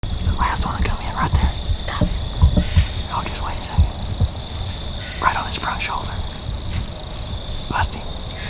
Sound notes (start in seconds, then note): 0.2 whispering